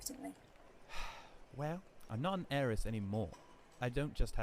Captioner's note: Sirius lets out a melodramatic sigh